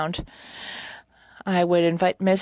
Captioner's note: speaking French